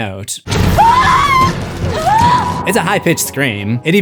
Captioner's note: screams